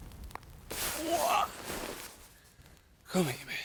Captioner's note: Jim groaning